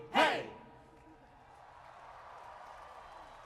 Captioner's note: cheering